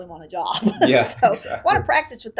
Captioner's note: laughing